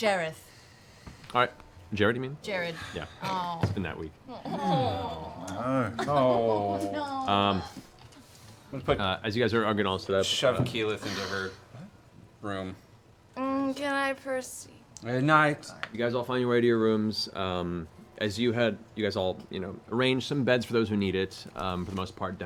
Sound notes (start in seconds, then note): 12.3 slurred